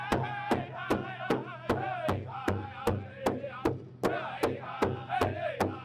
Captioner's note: group chanting continues